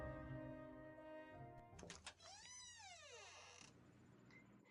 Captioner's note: door creaks open